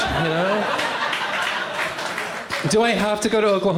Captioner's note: laughter